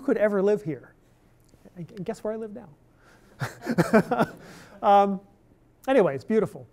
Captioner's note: laughter